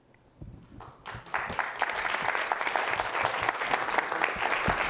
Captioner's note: applause